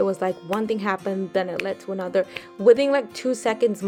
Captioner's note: snaps fingers